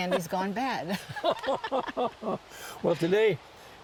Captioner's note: laughter